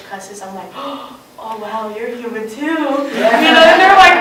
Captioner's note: gasps; laughter